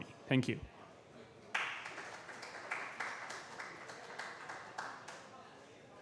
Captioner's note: applause